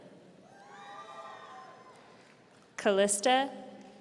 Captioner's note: audience cheering